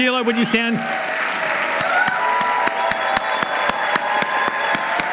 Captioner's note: applause